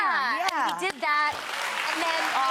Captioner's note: audience clapping